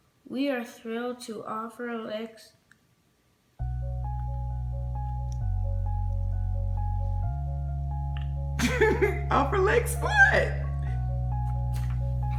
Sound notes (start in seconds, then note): 3.6 uplifting music; 8.6 laughing